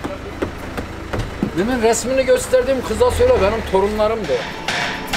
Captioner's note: conversation in Turkish